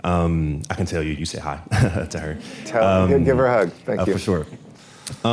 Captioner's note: laughter